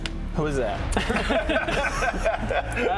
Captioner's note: laughs